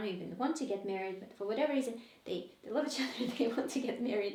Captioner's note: chuckles